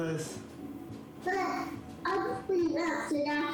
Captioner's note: mumbles